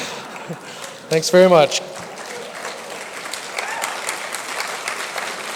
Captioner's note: laughs; audience laughter , applause